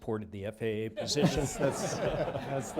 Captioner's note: laughter